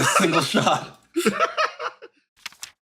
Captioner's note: laugh